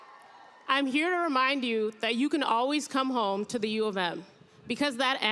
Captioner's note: cheers and applause